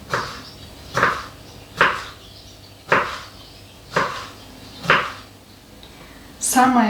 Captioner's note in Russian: фыркает